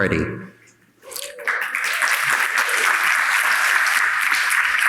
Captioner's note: audience applauding